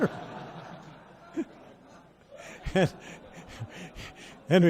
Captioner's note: audience laughs